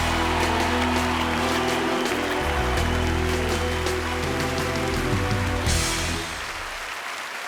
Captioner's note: grandiose hip-hop music; crowd applauding